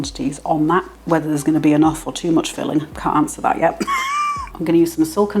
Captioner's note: laugh